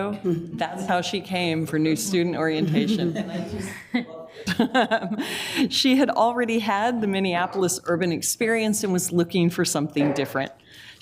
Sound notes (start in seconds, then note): 2.0 group laughs; 2.1 laughs